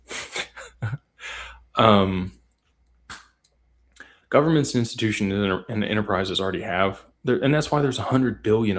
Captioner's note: laughter